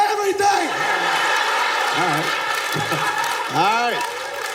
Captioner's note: audience laughing